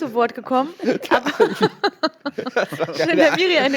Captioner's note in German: Lachen